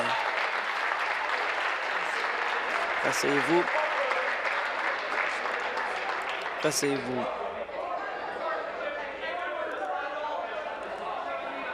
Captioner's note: applause